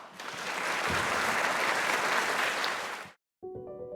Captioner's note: applause